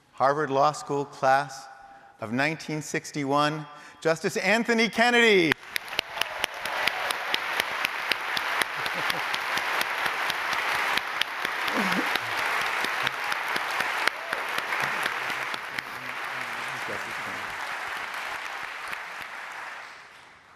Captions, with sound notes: Harvard Law School Class of 1961, Justice Anthony Kennedy. [APPLAUDING]